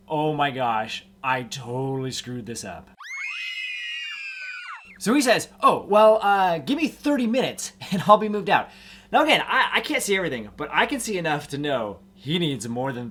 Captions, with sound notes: "Oh my gosh, I totally screwed this up." (children screaming) He says, "Oh, well, gimme 30 minutes and I'll be moved out." Now again, I can't see everything but I can see enough to know he needs more